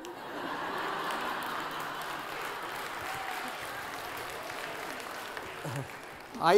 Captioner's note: laughter